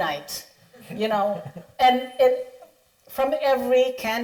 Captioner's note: laughs